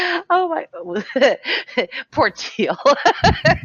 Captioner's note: laughs